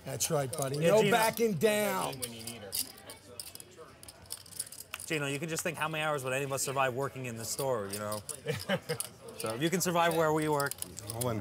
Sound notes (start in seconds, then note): 8.4 laughing